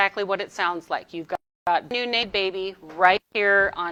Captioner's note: audio distorting